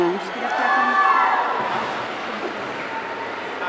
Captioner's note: audience cheering